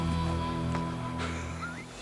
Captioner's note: heavy metal music; laughs